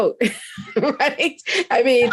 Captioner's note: laughs